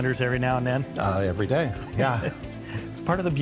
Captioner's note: laughs